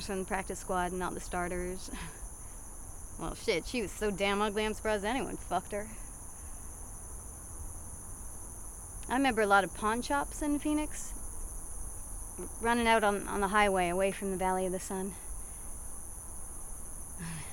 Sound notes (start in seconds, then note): 2.9 scoffs; 6.7 insects chirping